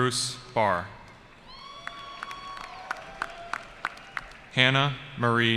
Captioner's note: cheering